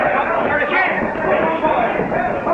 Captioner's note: crowd shouting frantically